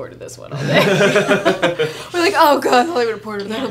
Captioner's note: laughing